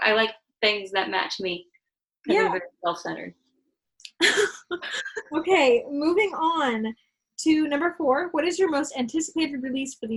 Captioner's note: laughter